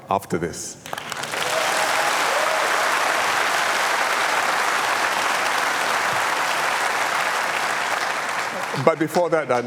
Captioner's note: applause